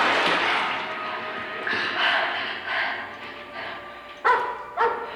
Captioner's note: suspenseful music; breathing heavily; dog barking